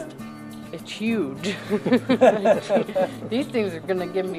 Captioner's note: laughs